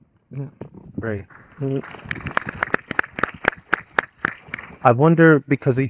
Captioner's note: audience applauding